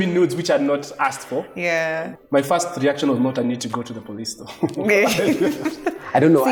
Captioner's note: laughs